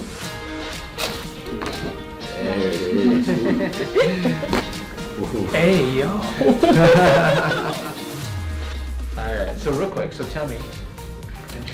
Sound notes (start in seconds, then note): 0.3 upbeat music; 1.0 cracking; 2.4 and patient laugh; 4.4 cracking; 6.7 and patient laugh